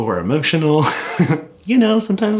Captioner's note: chuckles